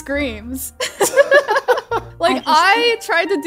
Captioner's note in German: Gelächter